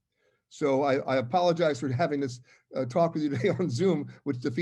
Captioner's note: laugh